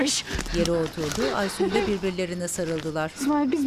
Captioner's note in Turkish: Nefes sesi